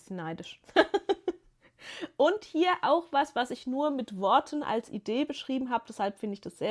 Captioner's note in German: gelächter